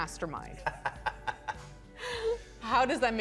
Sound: laughing

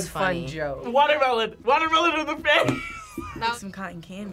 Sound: laughs

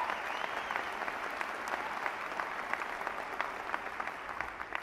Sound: applause

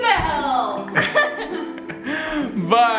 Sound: laughing together

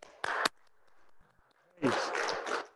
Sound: group applauding

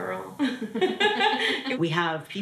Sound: laughing

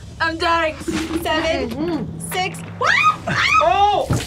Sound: screams

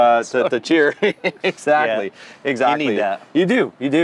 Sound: laughs

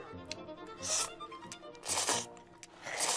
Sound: slurping

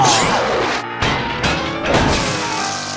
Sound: loud clunk; sizzles

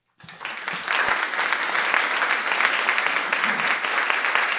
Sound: audience applauding

